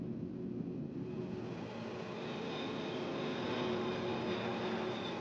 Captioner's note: plane humming